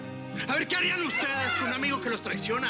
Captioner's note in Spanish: Gritos